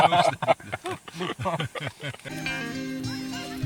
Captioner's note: laughter